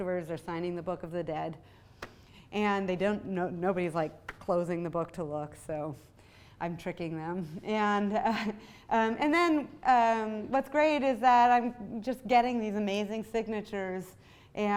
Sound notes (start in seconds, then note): none